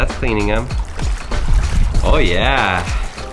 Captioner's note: water swishing